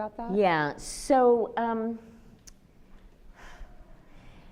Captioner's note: sighs